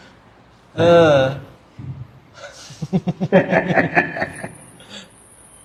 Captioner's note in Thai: เสียงหัวเราะ